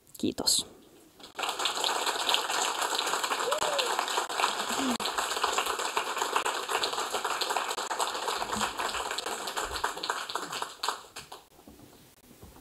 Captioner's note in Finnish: Aplodeja